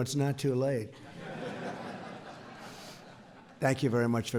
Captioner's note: laughter